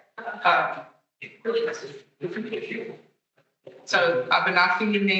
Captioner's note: attendees chattering